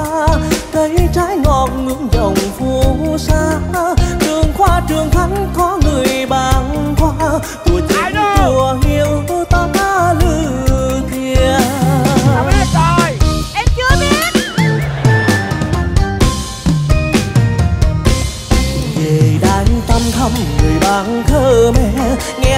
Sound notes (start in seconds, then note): 7.6 Ethnic language